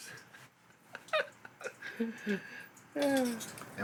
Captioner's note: laughs